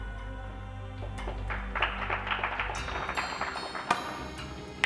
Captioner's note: audience claps; pool balls clacking